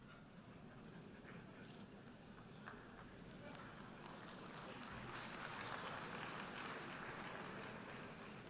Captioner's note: applause